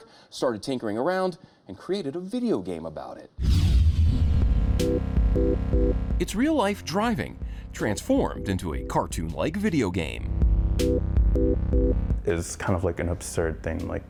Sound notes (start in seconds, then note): 3.4 graphics whooshing; 4.6 audio warbling; 4.6 playful music; 10.4 audio warbling; 10.4 playful music